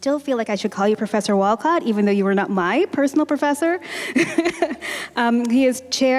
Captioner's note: chuckle